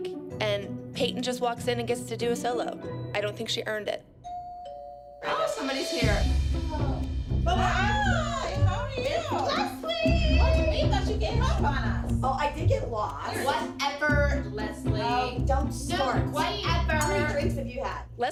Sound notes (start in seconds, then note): 4.2 doorbell rings